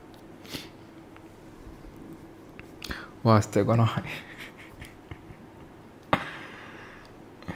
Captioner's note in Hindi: नाक से की जाने वाली आवाज़